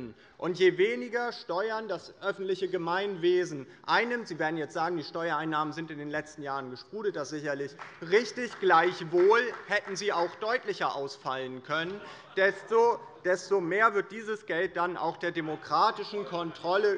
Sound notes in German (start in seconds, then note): 11.8 Beifall bei der FDP